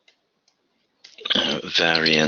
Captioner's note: typing